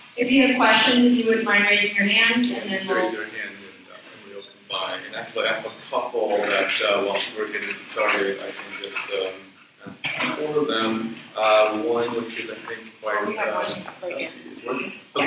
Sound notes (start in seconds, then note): 4.3 moderator speaks away from mic